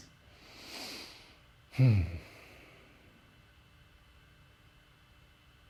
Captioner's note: deep breathing